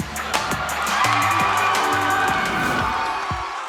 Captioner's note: lively music continues; audience cheers